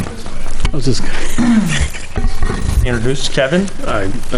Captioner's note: laughs